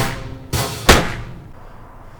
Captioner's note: gunshot